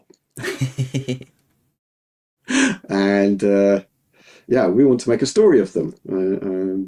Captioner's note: laughing